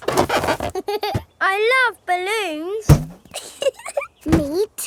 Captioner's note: chuckles